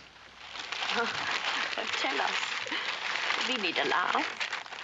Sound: crinkling of paper

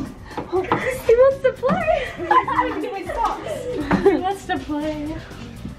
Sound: laughing

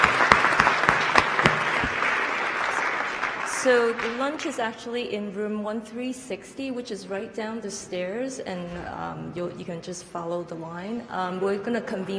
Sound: applause

